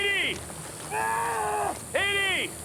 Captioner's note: screaming